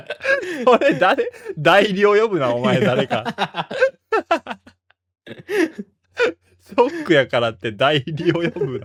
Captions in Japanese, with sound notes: これ誰?代呼ぶな。お前誰かソックやからって大量呼ぶだ。別の人格が出てくるくらい俺ショックやった。多分な。 [笑い]